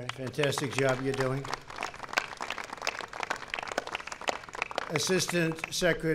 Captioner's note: applause